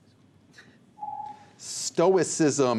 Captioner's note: ringing